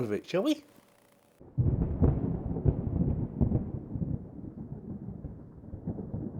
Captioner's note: thunder